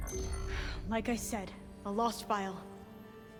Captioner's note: sigh